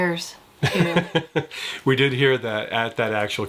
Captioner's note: chuckles